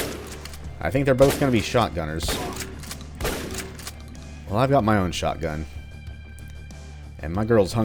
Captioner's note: Ripper Shotgun blast; counter Shotgun blasts